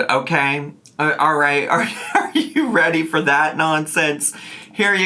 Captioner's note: laughing